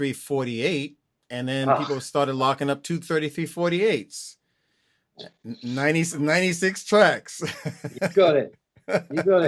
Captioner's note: laughter